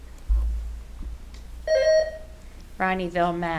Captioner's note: buzzer ringing